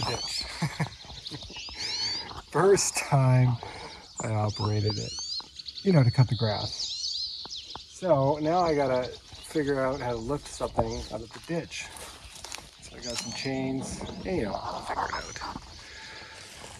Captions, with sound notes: (chuckling) (birds chirping) First time I operated it, to cut the grass. So, now I gotta figure out how to lift something out of the ditch. (birds chirping) So I got some chains, anyway I'll figure it out.